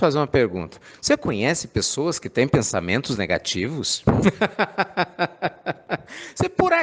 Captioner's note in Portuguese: risadas